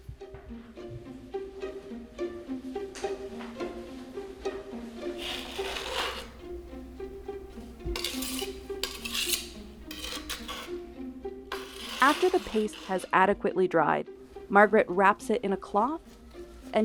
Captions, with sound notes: (inquisitive music) (knife grinds) (knife scrapes) After the paste has adequately dried, Margaret wraps it in a cloth